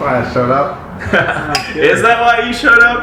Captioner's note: laughing